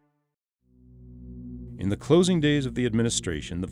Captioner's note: voiceover